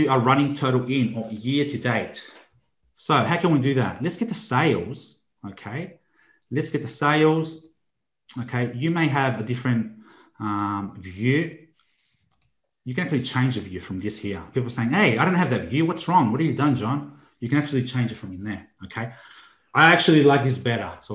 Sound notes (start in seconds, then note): 9.7 computer mouse clicking